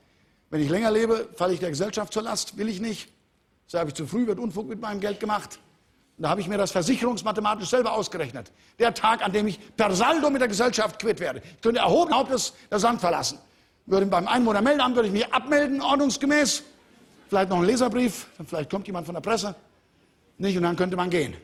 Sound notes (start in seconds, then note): 16.8 Lachen im Publikum